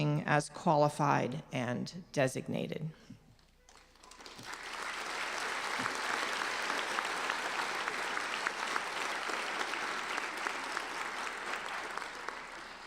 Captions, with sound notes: as qualified and designated. (applauding)